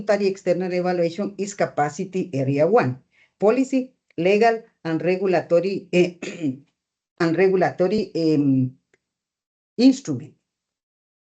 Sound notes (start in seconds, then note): 6.2 clears throat